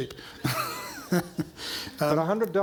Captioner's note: chuckling